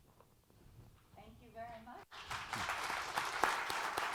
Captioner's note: applause